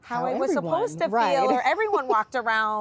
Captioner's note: laughs